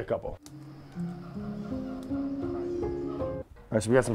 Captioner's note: monkeys howling